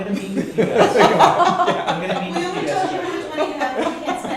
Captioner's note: laughter